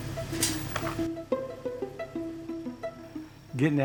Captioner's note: gate sounds